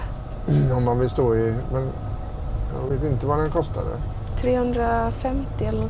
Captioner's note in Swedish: harklar sig